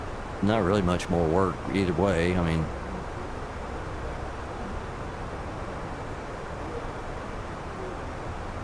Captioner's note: radio chatter